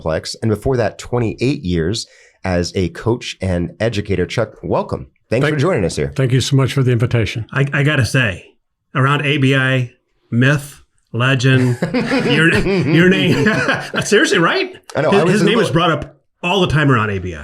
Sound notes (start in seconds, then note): 11.5 everyone laughs; 11.5 laughs